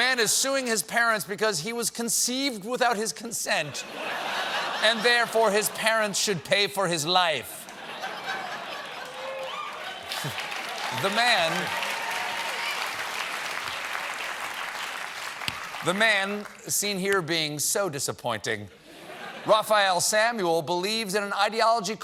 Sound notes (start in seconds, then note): 3.7 laughter; 7.5 laughter; 8.9 applause